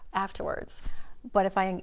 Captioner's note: gasp